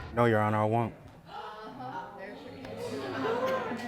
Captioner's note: audience chattering